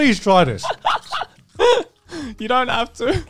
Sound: laughing

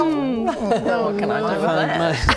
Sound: laughing

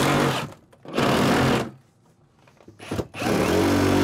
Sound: blade whirs

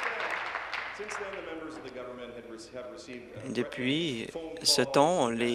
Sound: applause

